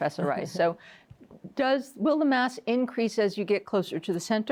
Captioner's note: chuckles